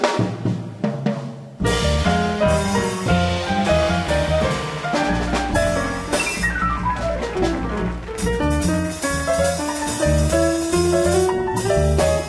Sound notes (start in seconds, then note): 7.3 audience applauding